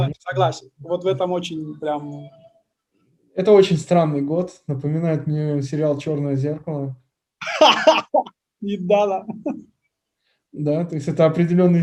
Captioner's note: laughs